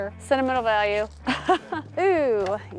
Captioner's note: laughs